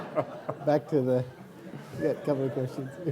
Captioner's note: laughing